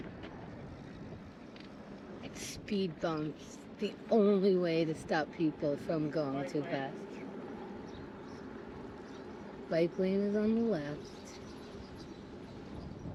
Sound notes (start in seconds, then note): 8.5 birds chirping